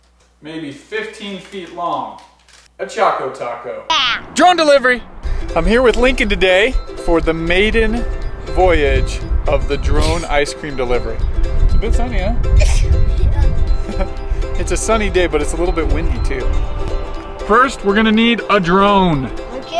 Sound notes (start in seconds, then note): 12.7 sneezing